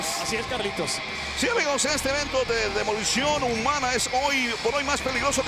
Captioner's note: both speaking in Spanish